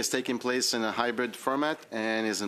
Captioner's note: speaking French